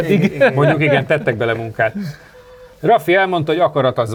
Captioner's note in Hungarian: nevetés